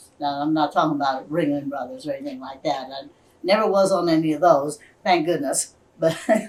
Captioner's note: laughs